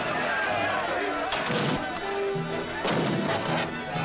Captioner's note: all shouting